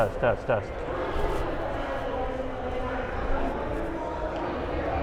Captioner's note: crowd talking